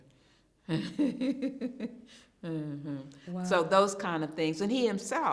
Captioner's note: chuckles